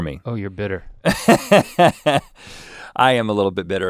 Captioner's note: guffaws